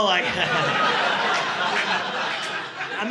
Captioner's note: audience laughing